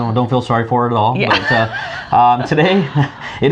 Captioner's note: laughing